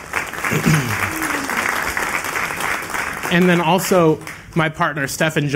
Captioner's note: applause